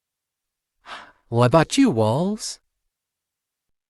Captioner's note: sighs